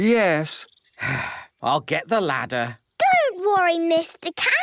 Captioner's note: sigh